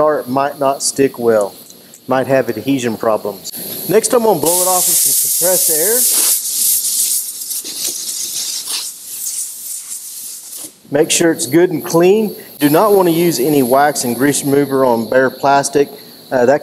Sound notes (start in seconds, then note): 6.5 compressed air whooshing